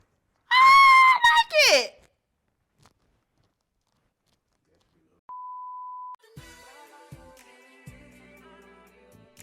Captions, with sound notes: *screams* Ahhhhhh I like it!